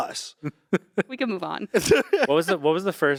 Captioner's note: Ian laughing